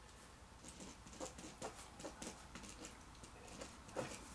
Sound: pen scribbles on paper

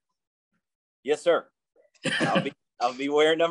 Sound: laughs

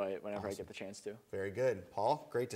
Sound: none

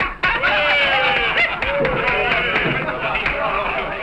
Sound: cheering; clapping

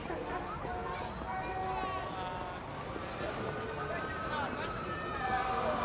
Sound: street sounds; siren wailing

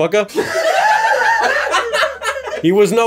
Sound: laughter

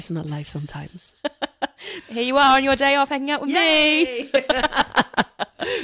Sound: laughs

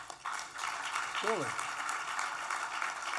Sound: applause

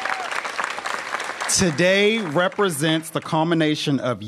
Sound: applause

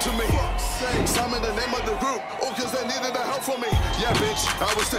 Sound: cheering continues

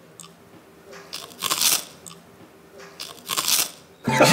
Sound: A clear and crisp sound of the fried seaweed

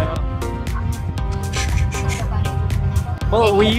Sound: whooshing sounds

